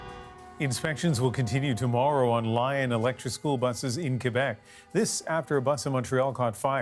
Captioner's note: sirens